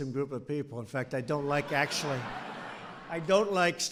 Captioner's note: laughter